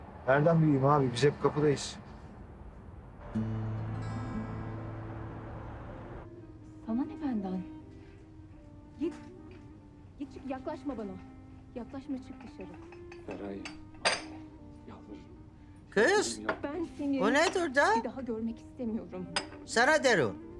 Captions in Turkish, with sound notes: Nereden bileyim abi? Biz hep kapıdayız. [Tv yayını sesi] Kız o nedir? Sana diyorum.